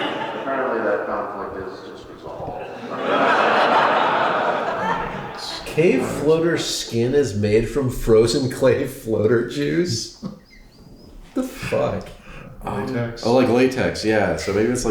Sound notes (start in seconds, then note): 2.5 laughter; 10.1 chuckles